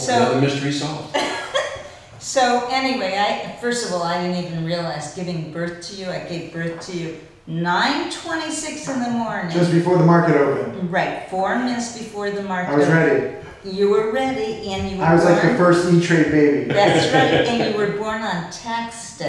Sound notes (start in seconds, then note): 1.2 laughs